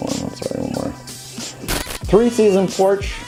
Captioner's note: static sound